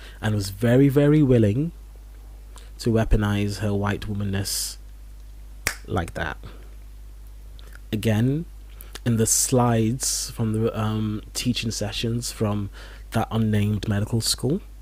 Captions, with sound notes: and was very, very willing to weaponize her white womanness [snaps fingers] like that. Again, in the slides from the teaching sessions from that unnamed medical school,